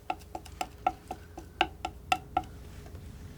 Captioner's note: tapping